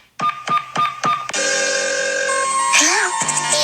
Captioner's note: phone ringing